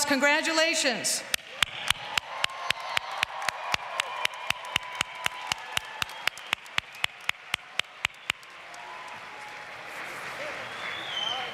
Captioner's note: applause